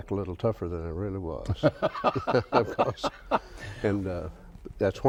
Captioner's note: both laugh